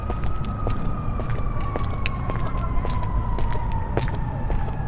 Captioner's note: sirens